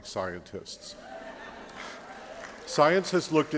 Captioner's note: laughter